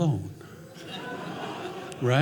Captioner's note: audience laughing